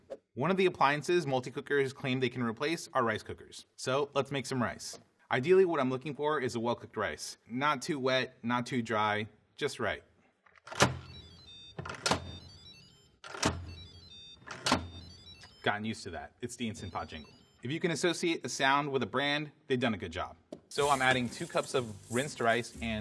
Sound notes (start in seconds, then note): 10.7 Instant Pot beeps